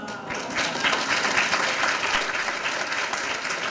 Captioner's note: applause